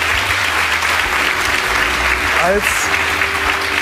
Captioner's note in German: Applaus